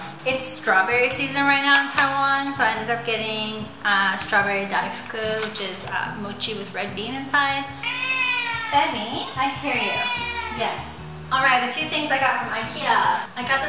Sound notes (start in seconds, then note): 7.8 meow